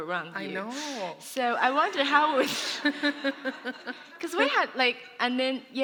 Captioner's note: laughter